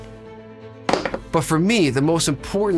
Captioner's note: headset clattering